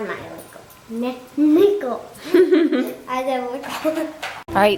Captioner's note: laughs